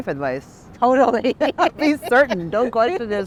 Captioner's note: laughing